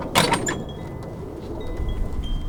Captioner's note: gate closes